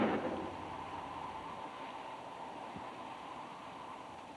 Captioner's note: gun bangs; wind howls